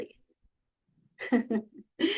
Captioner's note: chuckles